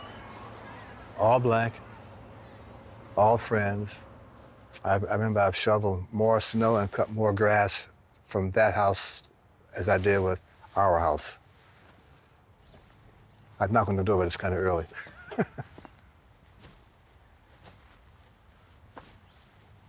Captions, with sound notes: All Black, all friends. I remember I've shoveled more snow and cut more grass from that house, as I did with our house. I'd knock on the door, but it's kind of early. (laughing)